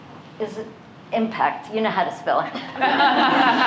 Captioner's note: laughter